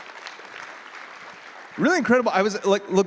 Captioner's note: applause